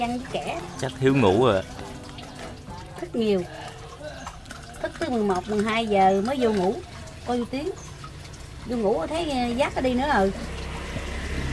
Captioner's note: chatting